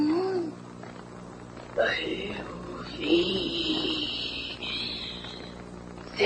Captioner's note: hoarse voice